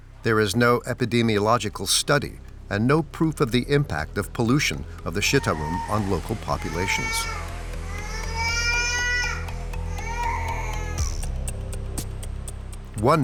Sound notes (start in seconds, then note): 7.3 baby crying; 12.0 upbeat music